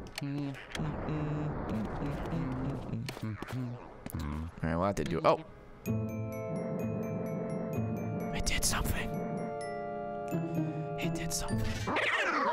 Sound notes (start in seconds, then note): 6.4 whispers